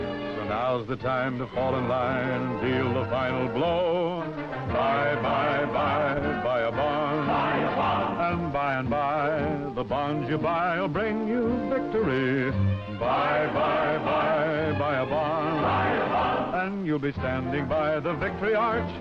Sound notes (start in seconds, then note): none